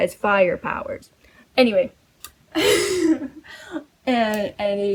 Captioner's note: laughs